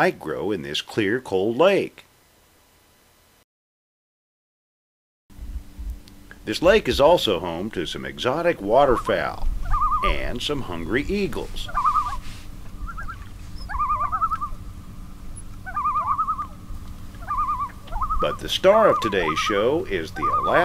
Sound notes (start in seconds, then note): 12.5 loon calls